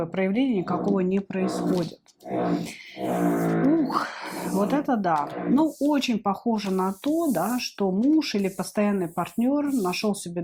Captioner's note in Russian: фыркает